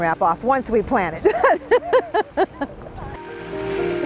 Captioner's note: laughs